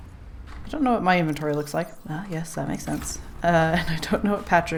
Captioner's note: laughs